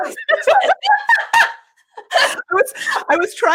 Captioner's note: laughing